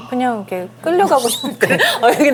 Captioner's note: hahaha